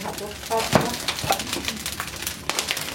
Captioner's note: pattering and crackling